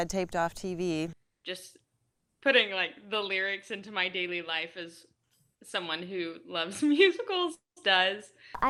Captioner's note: laughs